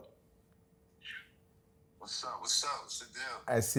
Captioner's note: on phone